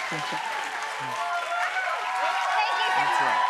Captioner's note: cheering continues